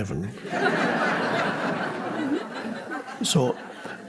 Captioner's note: audience laughing